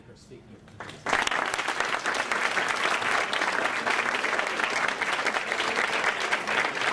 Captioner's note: applause